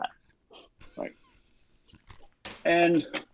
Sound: face-palms, laughing

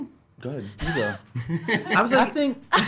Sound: laugh

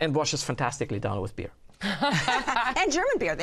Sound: laughter

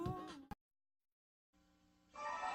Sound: silence

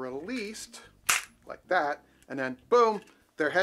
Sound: mouse trap clicks

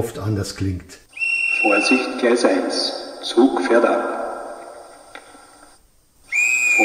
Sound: conductor's whistle

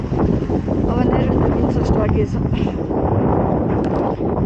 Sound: strong wind

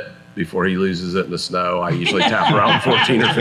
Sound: everyone laughs

